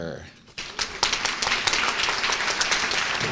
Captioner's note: applause